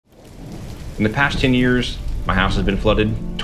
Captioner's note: rain pours heavily